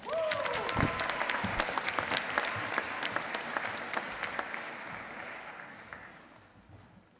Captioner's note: applause